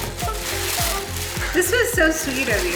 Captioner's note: paper rustling